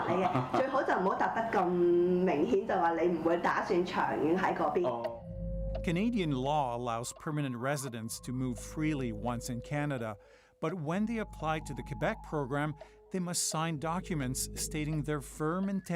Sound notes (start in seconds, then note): 6.2 speaking foreign language